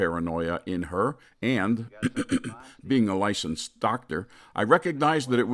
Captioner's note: clears throat